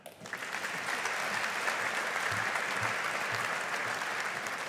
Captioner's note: audience applauding